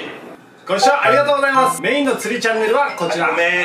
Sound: ringtone

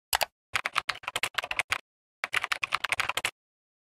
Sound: keyboard clicking

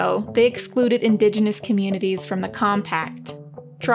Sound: none

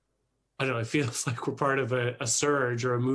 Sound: chuckles

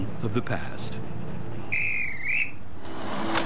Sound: whistle blowing

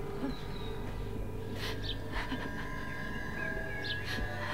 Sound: sobbing

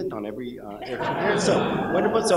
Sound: laughter

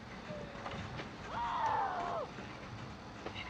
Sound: muffled screaming

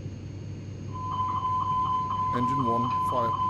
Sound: master Caution Beeping

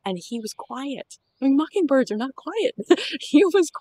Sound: laughter

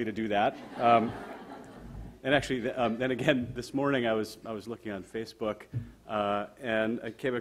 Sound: audience laughter

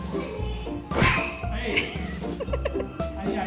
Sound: laughing

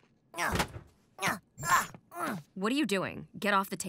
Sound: grunts

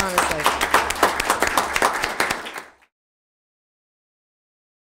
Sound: audience clapping

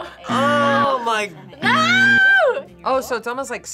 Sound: buzzer rings

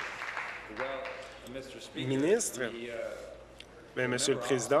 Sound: applause

